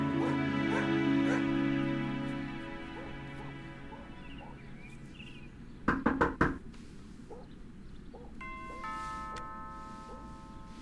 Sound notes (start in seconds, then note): 5.8 knocking; 8.4 doorbell rings